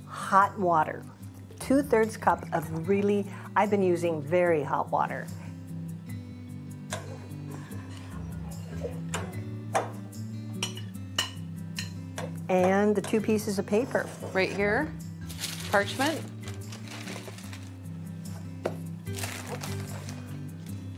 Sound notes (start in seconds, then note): 10.6 spoon clinking; 18.4 gentle acoustic music